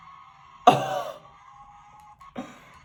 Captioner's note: chuckles